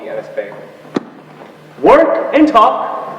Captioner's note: shuts book together